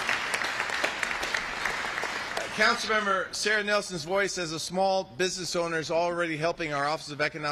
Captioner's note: applaus